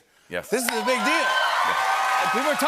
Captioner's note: cheers and applause